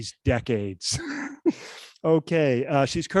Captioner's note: laughs